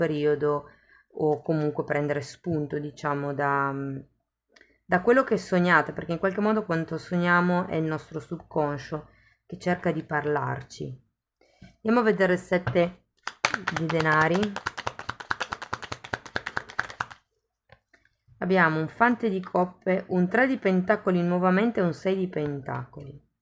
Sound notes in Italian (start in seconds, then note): 13.2 Applauso